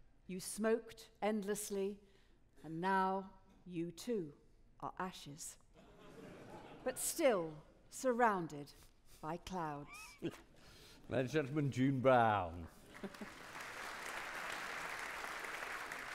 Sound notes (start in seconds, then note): 5.8 audience laughing; 12.8 audience clapping